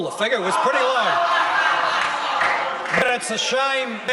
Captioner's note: members laugh